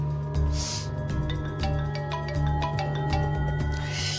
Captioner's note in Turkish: Telefon çalması